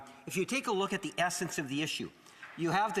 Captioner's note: speaking French